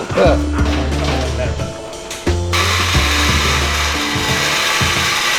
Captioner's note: welding buzzing